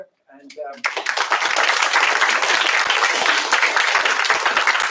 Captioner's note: applause